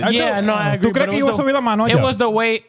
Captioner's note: speaking In Foreign Language